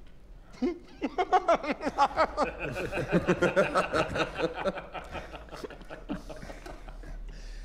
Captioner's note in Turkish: Gülme sesleri